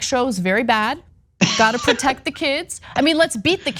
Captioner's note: laugh